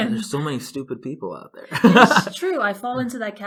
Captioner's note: laughs